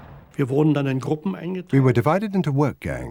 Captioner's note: speaking german